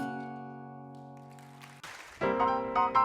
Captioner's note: audience applauding